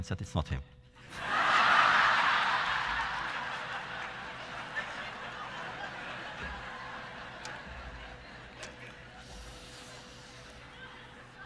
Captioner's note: laughter